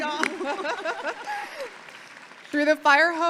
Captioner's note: audience clapping; clapping